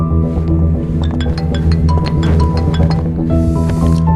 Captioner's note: mobile rings